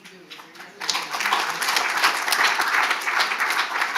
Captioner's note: audience applaud